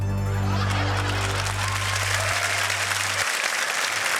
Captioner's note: applause